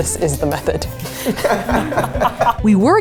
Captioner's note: both laugh